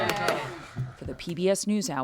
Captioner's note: cheering